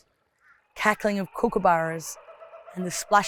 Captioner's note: bird cackling